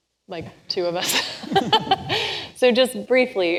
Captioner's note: laughs